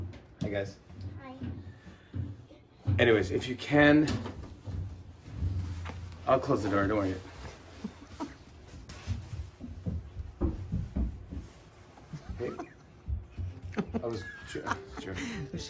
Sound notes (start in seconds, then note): 7.2 laughing; 10.0 running footsteps; 12.1 laughing; 14.3 piano playing